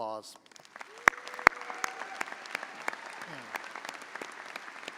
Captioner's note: audience applauding